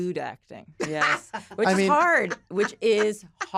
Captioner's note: laughs